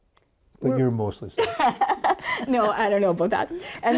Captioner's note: laughing